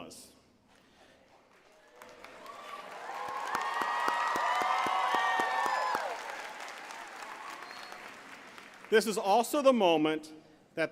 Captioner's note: applause